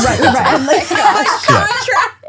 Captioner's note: laughing